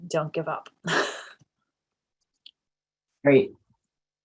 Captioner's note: chuckles